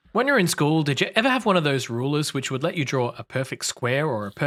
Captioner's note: none